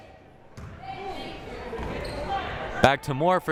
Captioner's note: crowd murmuring